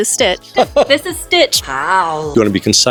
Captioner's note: laughs